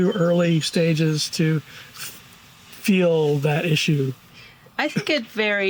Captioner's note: birds chirping